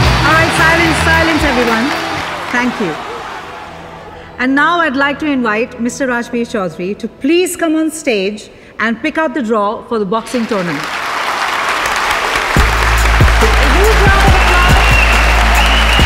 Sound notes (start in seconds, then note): 10.3 all clapping